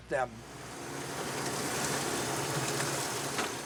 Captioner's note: motor purrs